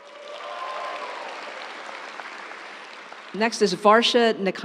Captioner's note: audience cheering; audience applauds